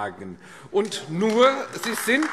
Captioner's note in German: Beifall AfD